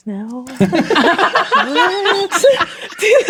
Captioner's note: players laughing